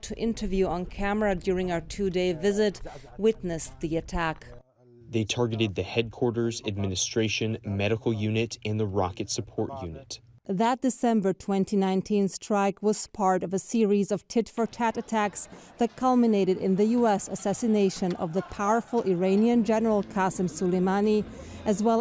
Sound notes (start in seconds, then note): 4.8 through translator